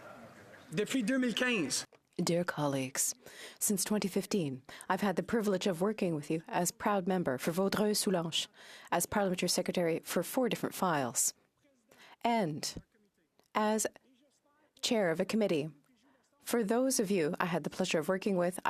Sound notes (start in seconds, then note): 3.8 speaking French